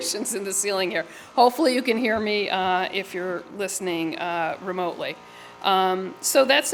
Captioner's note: laugher